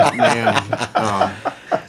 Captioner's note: laughing